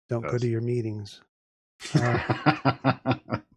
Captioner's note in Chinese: 笑声